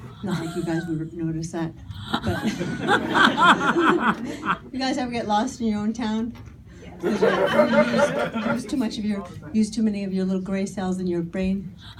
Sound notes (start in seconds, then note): 2.0 audience laughing; 7.0 audience laughing